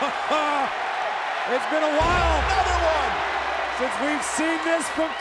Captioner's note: laugh